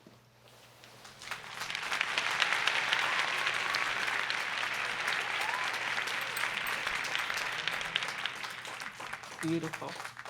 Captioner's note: applause